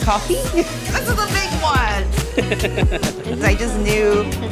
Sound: laughs

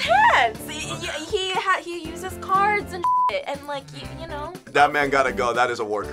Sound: beep

